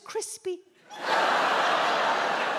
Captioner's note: audience laughs